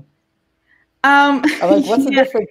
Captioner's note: laughs